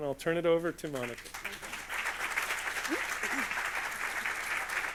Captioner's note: audience applauds